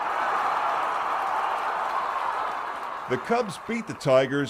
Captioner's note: crowd cheering